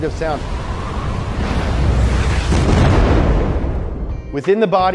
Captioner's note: roaring wind